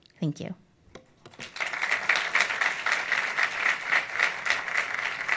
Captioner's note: audience applauds